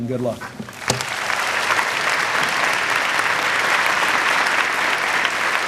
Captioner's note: applause